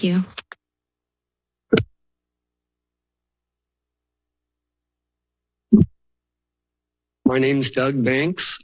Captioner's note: silence